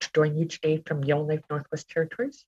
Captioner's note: speaking Alternative Language